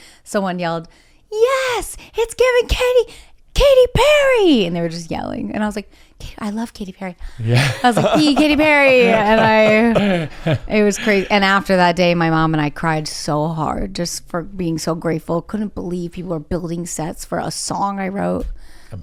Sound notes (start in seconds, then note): 7.4 laughs; 7.5 laughing